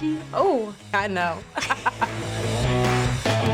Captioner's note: both laugh; punk rock music